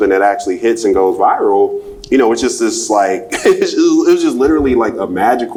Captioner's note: laughs